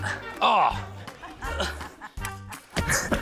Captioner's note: groans